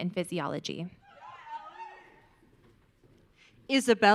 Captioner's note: audience cheering